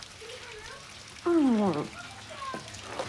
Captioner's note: water sloshing; groans; chatter